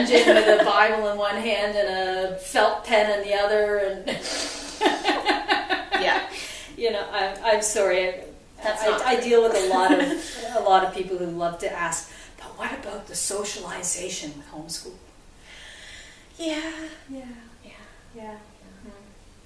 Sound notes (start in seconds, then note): 4.1 laughter